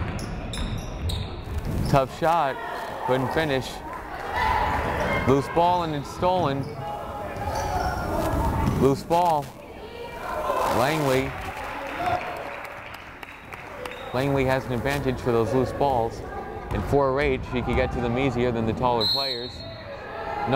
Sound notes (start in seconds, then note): 11.1 crowd applauding; 19.0 whistle blows